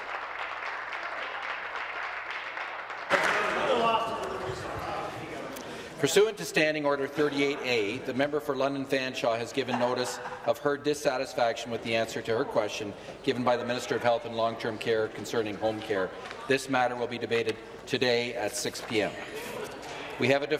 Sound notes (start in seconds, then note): 2.8 applause